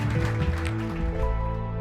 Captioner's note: applause